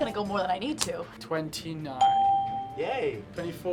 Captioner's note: bell rings